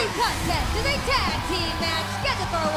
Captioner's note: bell ringing